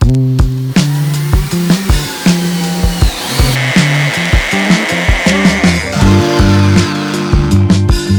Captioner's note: drill sounds